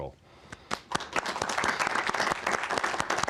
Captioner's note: applause